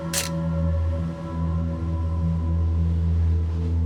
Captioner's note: camera snapping